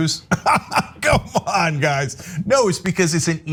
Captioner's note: laugh